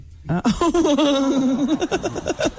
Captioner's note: laughing